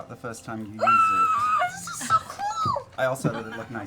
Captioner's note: squeals